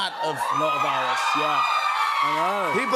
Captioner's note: cheers and applause